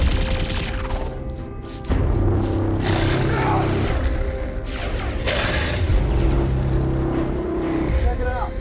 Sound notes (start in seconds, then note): 2.8 groaning; 2.8 growling